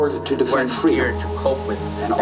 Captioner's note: light static